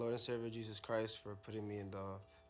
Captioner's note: speaking in native language